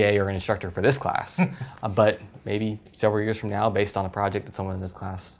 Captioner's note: laugh